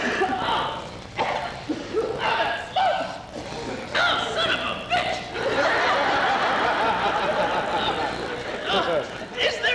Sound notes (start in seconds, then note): 1.1 grunting; 5.3 laughter